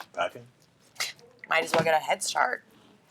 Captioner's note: scoffs